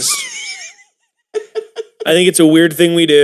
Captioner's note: Evil Will cackles